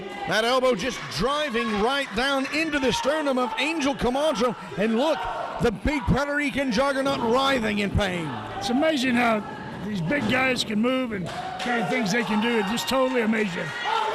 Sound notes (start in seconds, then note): 10.7 audience cheering